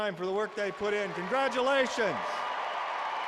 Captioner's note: applause